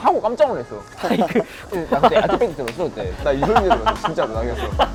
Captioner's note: laughing